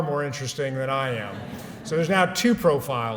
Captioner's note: laughter